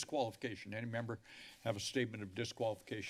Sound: inhales

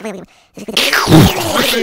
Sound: explosion

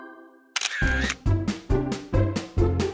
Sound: click

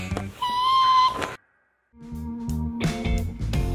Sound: screeching; upbeat music

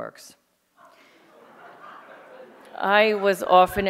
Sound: audience laughing

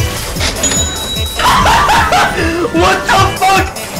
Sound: big Laugh

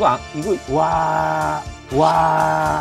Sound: exclaiming

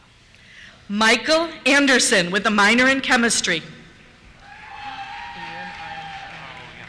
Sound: cheers

